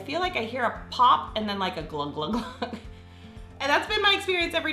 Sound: laughs

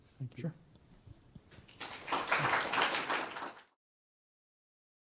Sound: applause

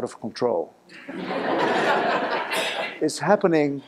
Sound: laughing

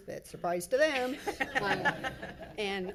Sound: all laughing

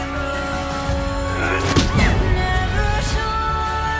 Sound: punching sounds

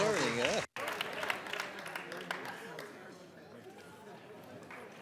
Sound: audience chattering

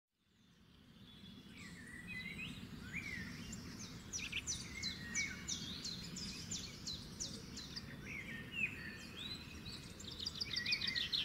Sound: bird chirping

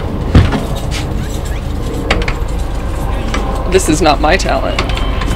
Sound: creaking and straining sounds

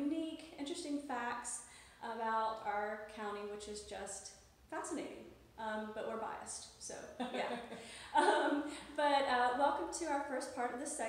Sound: laughs

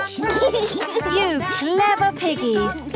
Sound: laughs

